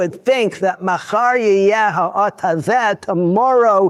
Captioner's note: speaking Hebrew